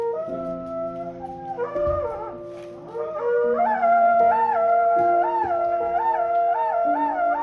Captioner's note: conch shell trumpet